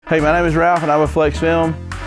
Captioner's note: alarm blaring